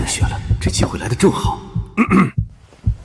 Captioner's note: cough cough